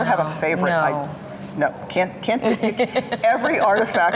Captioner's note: laughing